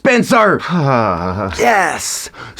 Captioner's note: INFJ sighs